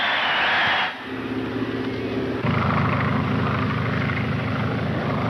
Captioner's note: audience cheering; plane engines rumbling